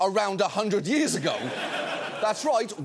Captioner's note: audience laughing